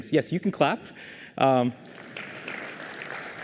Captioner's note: applause